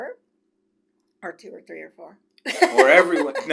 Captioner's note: laughs